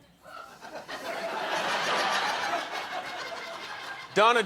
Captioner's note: laughter